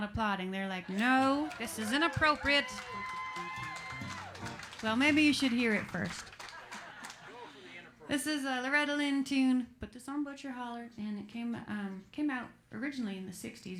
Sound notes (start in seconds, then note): 0.8 clapping and cheering